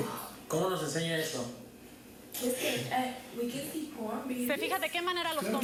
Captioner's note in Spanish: hablan en inglés